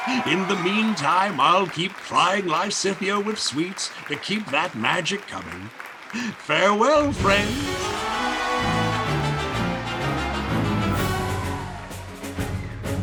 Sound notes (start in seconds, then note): 5.5 audience applauding; 7.1 grand orchestral music; 7.8 audience cheering